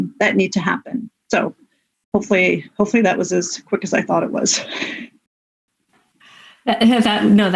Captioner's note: laughs